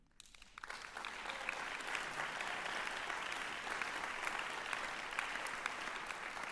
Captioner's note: applause